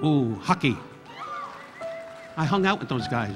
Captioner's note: audience applauding; audience cheering